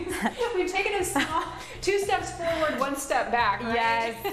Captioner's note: laughing